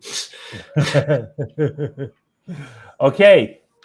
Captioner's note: laughs